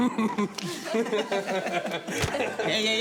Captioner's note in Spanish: Risas